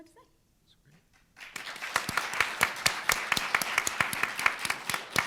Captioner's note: room applauding